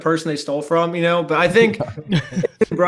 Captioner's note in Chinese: 笑聲